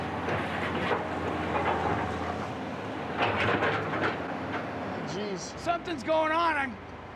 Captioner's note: clanking sound